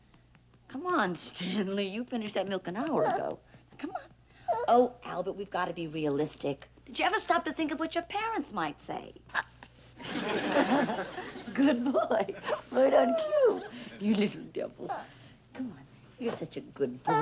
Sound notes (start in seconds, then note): 9.1 Stanley burps; 10.0 laughs